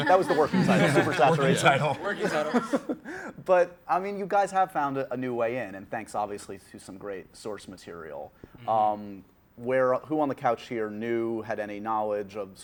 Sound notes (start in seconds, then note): 2.4 laughs